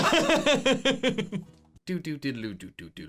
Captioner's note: laughing